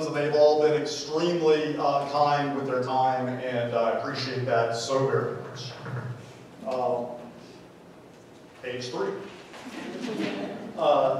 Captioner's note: laughter